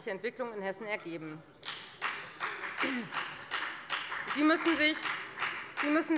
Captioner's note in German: Beifall bei der FDP